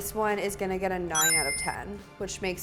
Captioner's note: ding